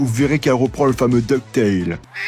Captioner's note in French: meme hurlement de canard